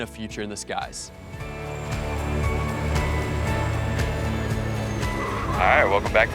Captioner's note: upbeat music; engine whirring